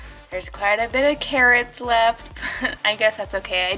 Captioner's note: laughs